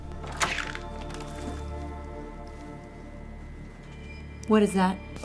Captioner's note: door squeaks